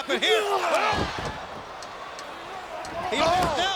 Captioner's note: wrestlers grunting